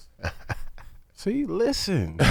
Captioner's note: laughing